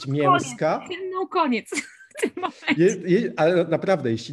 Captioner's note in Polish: śmiech